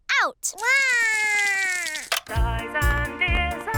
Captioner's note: cries